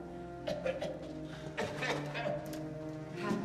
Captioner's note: Ryder coughing